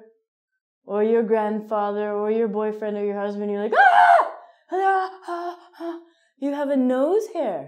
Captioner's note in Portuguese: Gritos